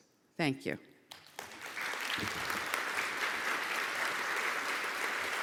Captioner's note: audience applauding